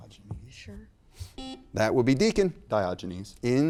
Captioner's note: buzzer beeps